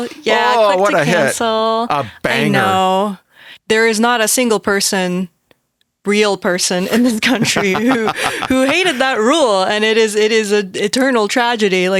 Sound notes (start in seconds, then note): 8.8 Cory laughs